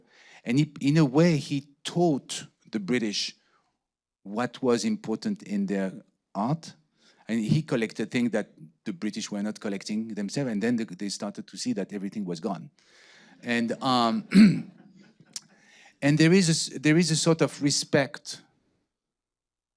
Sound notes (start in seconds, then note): 13.4 audience laughing